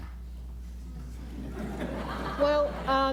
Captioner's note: laughter